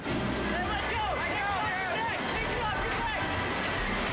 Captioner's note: people yelling